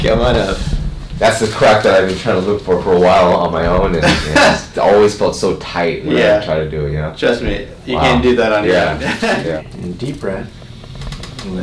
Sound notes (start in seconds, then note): 3.9 chiropractor laughs; 8.6 chiropractor laughs